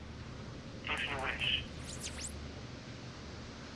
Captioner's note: radio comm